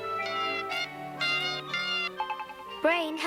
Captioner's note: beeping